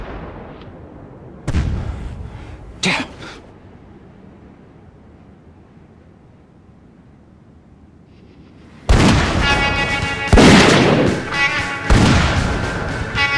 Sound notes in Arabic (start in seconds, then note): 1.4 طلقات نارية; 9.1 موسيقى غربية مثيرة